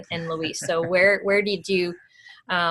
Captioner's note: laughs